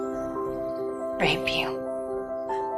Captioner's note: voiceover